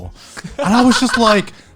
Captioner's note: laughing